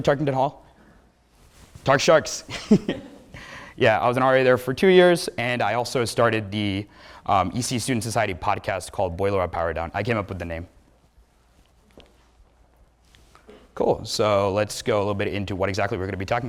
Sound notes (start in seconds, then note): 3.4 laughs